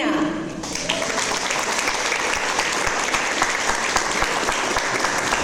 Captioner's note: audience applause